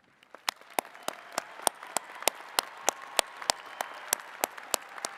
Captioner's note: attendees clapping and cheering